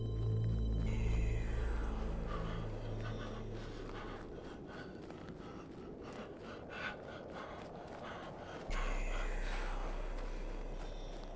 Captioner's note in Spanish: respiración pesada